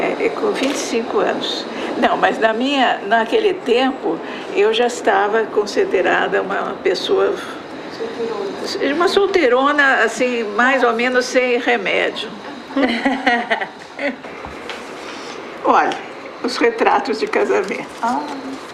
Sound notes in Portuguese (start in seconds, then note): 12.7 risadas